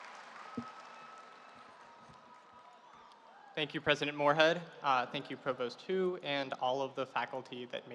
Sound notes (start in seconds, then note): 0.0 audience applauding